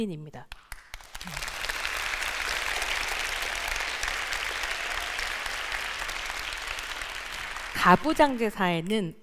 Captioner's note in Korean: 박수